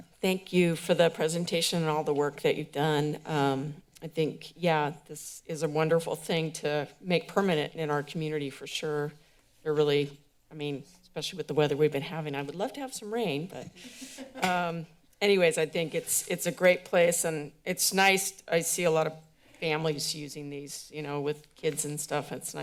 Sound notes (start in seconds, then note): 14.0 laughter